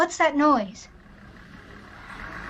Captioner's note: construction sound